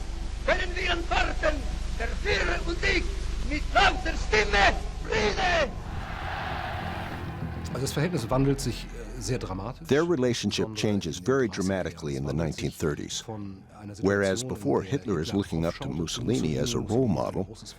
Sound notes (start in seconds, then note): 5.2 crowd cheering